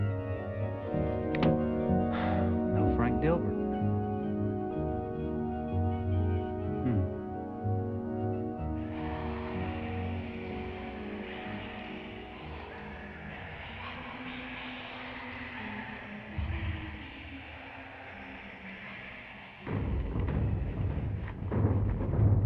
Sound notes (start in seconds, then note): 1.2 sighs